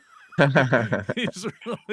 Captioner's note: both laughing